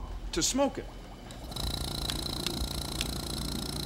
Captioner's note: motor hums